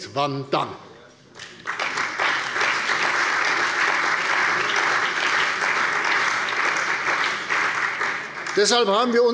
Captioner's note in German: Beifall bei der CDU und dem BÜNDNIS 90/DIE GRÜNEN